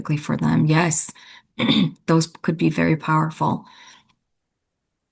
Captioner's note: clears throat